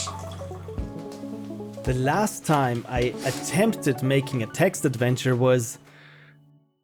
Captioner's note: narrating